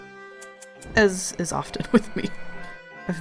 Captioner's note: laughs